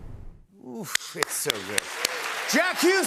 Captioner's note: cheers and applause